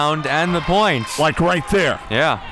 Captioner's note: crowd clapping